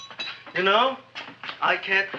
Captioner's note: tooth clinking